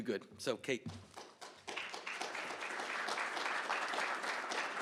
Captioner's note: applause